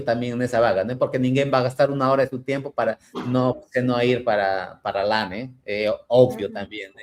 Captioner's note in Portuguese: limpando a garganta